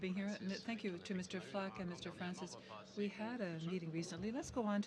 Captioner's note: speaking French